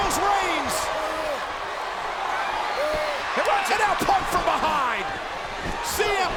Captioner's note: applause